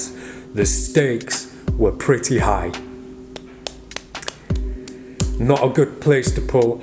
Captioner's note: clapping